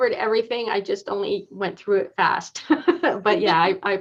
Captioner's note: laughs